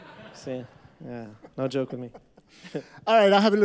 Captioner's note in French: Rires